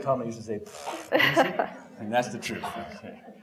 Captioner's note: blows raspberry